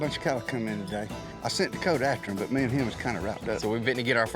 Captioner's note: none